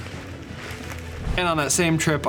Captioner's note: gun fires